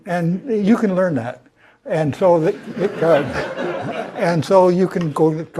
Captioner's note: laugh